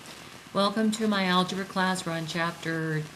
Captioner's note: voiceover